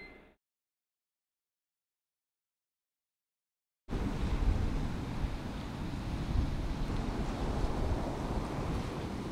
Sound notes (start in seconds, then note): 3.9 wind blowing; 3.9 waves crashing